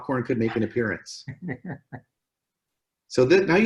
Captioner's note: laughs